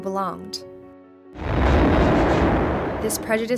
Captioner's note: bomb explodes